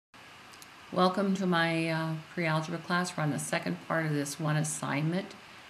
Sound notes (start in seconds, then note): 1.1 voiceover